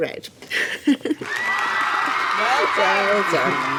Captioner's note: cheering sound effect